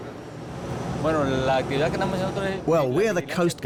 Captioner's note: speaking Spanish